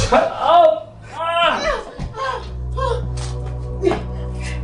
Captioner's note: groaning; dramatic music